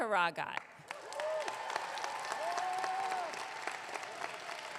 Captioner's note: audience clapping